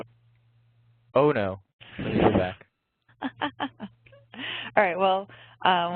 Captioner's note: laughs